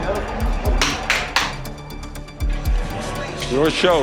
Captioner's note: clapping